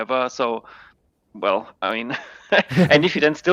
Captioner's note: laughing